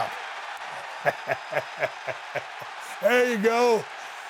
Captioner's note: audience cheering; laughs